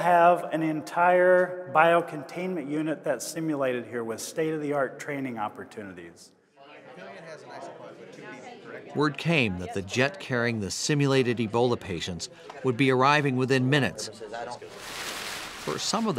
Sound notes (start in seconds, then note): 8.9 people talking